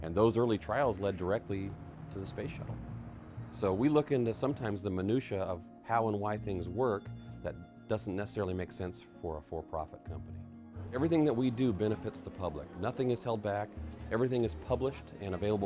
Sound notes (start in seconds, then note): none